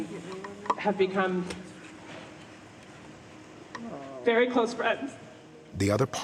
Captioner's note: voice breaking